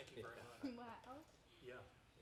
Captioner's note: chuckling